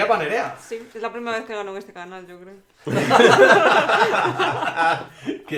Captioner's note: laughs